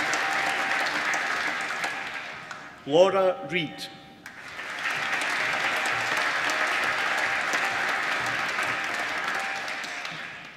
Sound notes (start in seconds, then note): 4.2 applause